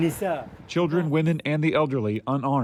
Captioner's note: through translator